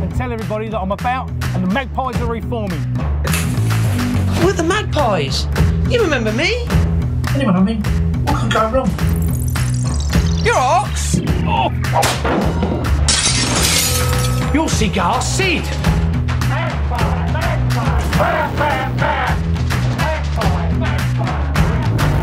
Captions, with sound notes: tell everybody that i'm about and the magpies are reforming we're the magpies, you remember me? anyway, I mean what could go wrong? you alright ox? [BONK] Ooow! [SMASHING GLASS] you're Cigar Sid! Magpie, Magpie aw aw aw Magpie, Magpie aw aw aw